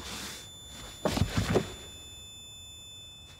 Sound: thump

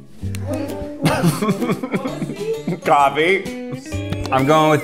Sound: laughs

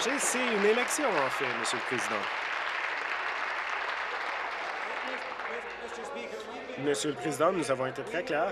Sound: applause

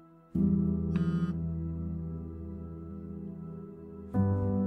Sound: somber music; phone vibrating

